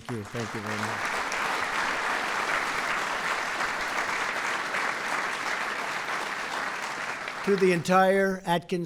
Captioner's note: applause